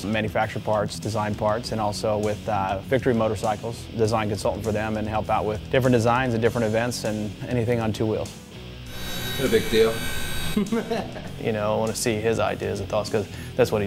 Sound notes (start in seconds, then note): 8.8 hydraulic pump humming; 10.5 laughter